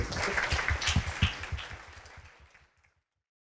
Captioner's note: applause